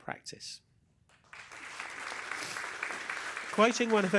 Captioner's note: applause